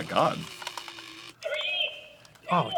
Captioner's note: clock